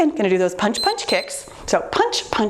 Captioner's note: timer beeps